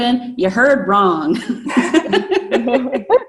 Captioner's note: laughs